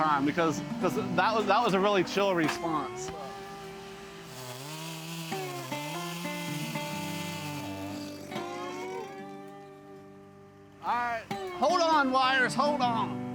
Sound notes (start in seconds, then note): 3.3 relaxed music; 5.2 chainsaw buzzing